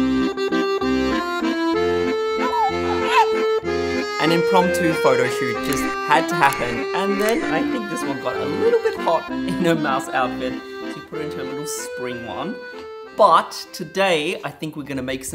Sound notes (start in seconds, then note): 2.4 coos